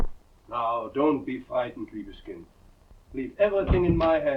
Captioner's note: speaking in foreign language